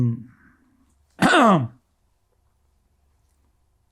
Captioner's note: clears throat